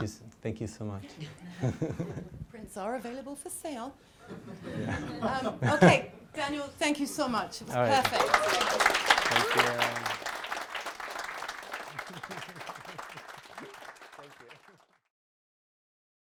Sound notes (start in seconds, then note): 4.2 laughter; 8.6 applause